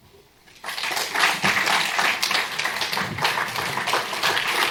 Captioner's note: applause